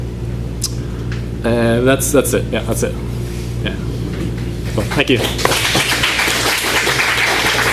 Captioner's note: applause